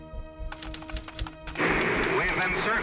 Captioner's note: typewriter clicking